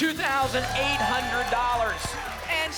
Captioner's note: applause and cheering